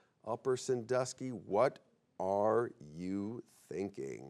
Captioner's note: none